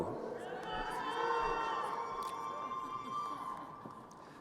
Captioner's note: crowd cheering